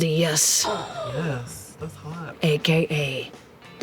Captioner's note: gasps